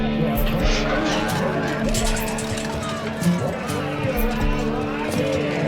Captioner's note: gate opens with a smash